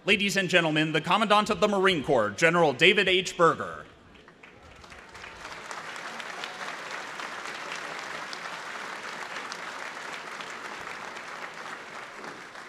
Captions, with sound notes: Ladies and gentlemen, the Commandant of the Marine Corps, General David H. Berger. (applause)